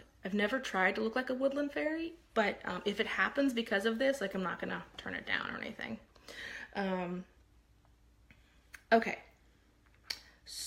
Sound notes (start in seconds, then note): none